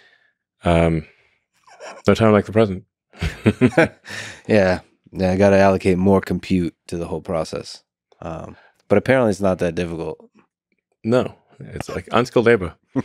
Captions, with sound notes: No time like the present. - (laughs) Yeah. I gotta allocate more compute to the whole process. But apparently, it's not that difficult. - No, it's like unskilled labor.